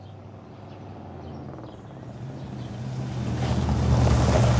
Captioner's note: car rumbles